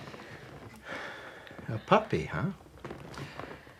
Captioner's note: sighs